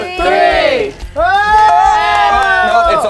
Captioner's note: all cheering